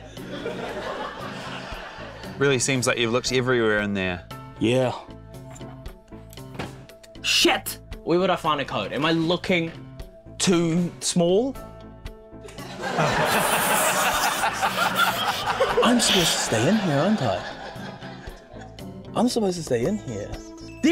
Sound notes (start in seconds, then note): 0.0 laughter; 6.5 thud!; 12.4 laughter